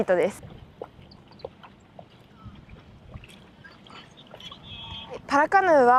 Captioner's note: practicing on a river. Sound of water